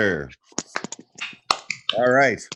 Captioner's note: clapping